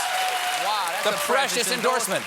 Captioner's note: cheers and applause